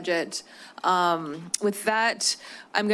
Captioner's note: clicks tongue